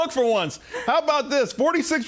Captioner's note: laughter